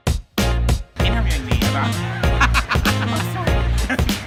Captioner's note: laughing